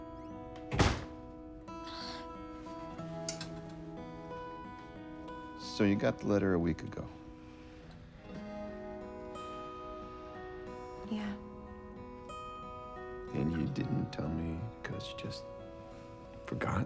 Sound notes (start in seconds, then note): 0.6 door slams; 1.8 sighs